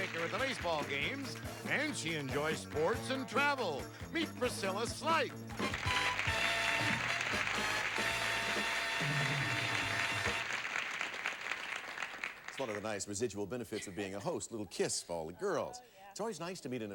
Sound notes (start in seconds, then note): 5.6 audience applauding